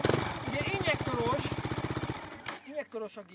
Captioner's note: engine turned off